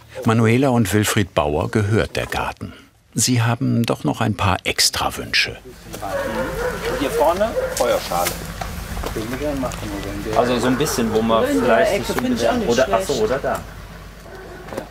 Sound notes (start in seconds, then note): 6.0 barking